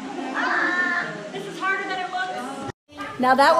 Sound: laughs; exclaims

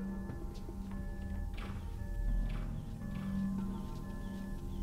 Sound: device beeping

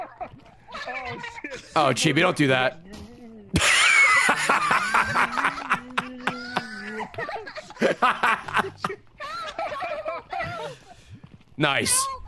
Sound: gurgles; laughs

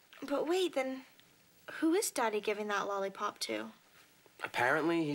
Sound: none

